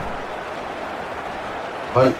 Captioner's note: crowd Noises